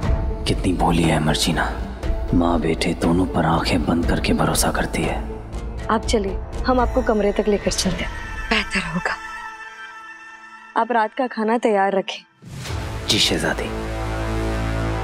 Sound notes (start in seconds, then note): none